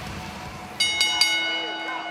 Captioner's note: bell ringing